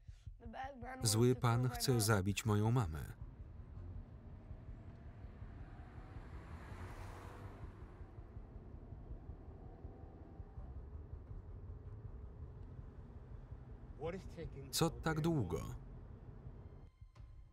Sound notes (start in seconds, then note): 3.2 traffic hums